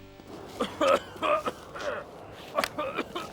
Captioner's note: coughing